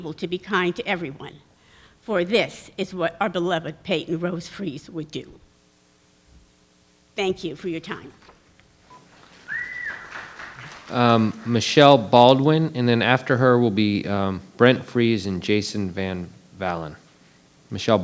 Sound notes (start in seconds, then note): 8.8 attendee whistling; 9.0 attendees applauding